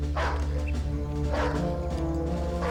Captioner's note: dog barking